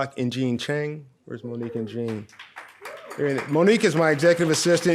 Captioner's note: audience applauds